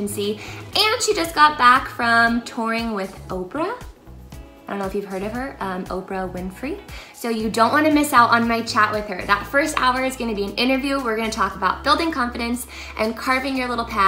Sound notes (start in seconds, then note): none